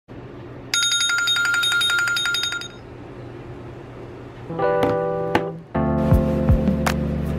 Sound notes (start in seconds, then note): 0.7 alarms rings; 4.5 gentle music